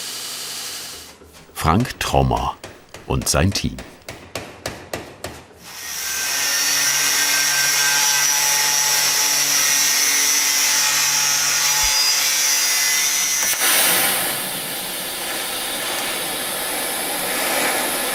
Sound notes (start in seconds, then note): 4.1 knocking; 13.4 hissing